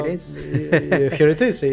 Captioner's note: laughs